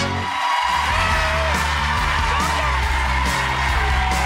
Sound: audience cheers

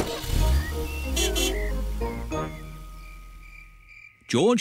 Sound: horn honks

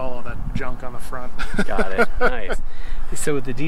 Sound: laughs

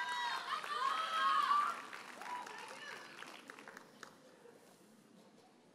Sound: audience cheers and applauds

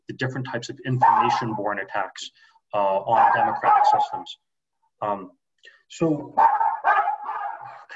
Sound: dog starts barking again

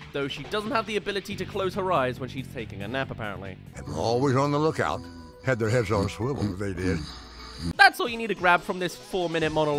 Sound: snore

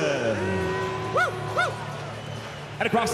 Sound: scattered cheering, booing

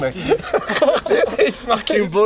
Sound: laughs

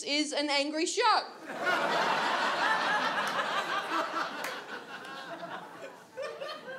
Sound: audience laughs

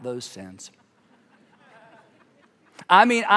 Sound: congregation laughing

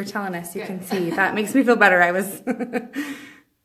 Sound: laughs

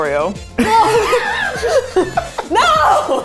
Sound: laughing

